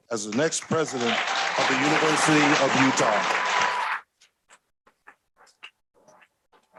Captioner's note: audience applauds